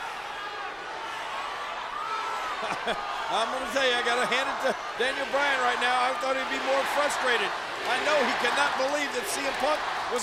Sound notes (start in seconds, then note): 0.6 crowd clamors; 2.6 chuckles